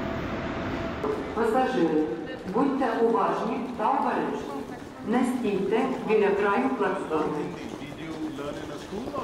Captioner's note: train station announcement